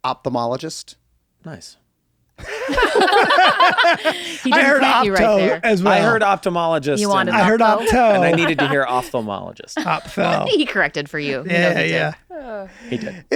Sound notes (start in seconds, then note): 2.4 they laugh